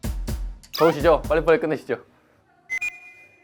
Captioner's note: confident